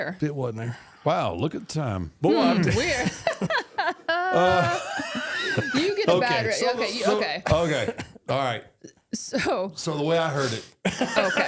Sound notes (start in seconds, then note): 2.4 laughs; 4.6 all laughing